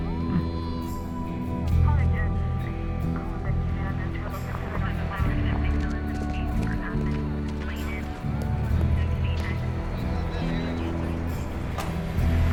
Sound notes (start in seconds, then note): 2.3 POLICE TALKING</i> <i> OVER RADIOS